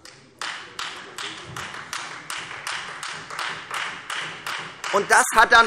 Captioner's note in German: Beifall Freie Demokraten